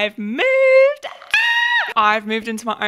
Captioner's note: screams